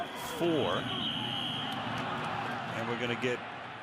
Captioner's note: whistle